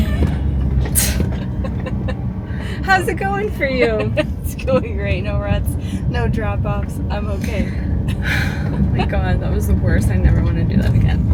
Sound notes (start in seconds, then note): 2.9 sarcastically asks; 3.6 laughter